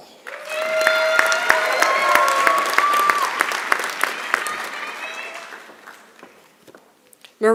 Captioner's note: applause